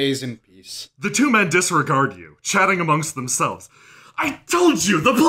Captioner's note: the two men disregard you, shouting amongst themselves